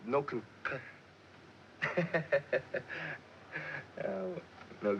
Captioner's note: laughter